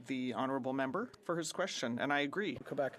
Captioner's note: speaking French